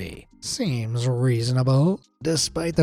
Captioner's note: sarcastic tone